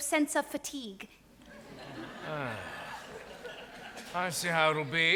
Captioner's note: audience laughs